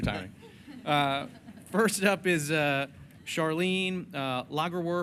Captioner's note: laughing